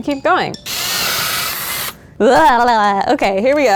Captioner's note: drill buzzes